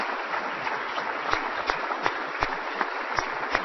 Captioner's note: applause